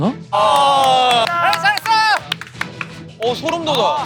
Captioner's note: automatic standing ovation